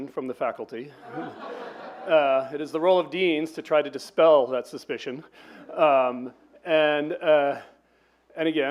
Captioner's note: laughs